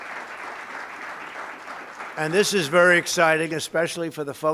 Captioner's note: applause